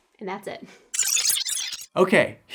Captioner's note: digital glitch